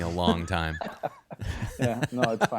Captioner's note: laughing